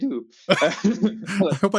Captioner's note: laughing